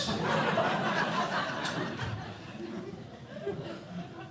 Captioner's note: laughter